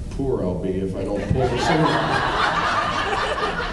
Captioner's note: laughs